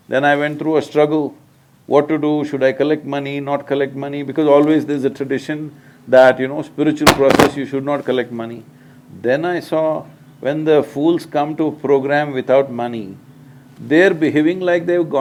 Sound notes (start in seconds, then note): none